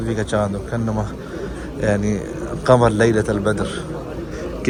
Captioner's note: Arabic